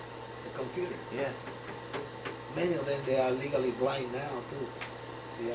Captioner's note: knocks on computer